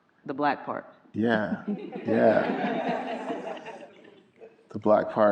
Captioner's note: everyone laughing